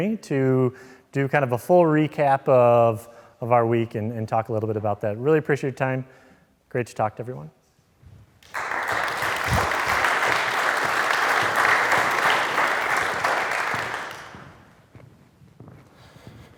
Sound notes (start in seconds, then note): 8.4 audience clapping